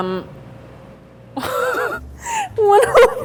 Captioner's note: laughing